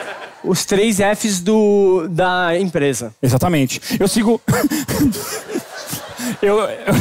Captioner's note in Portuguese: risos